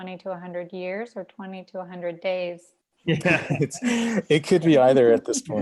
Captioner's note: all laughing